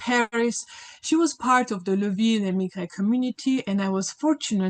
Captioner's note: speaks in French